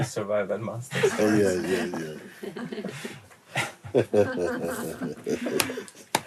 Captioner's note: laughter